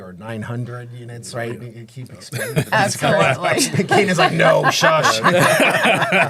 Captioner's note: laughing